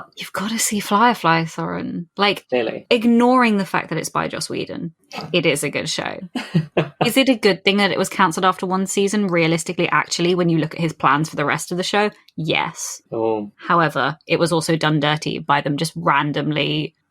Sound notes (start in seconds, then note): 4.8 snorts; 6.4 laughs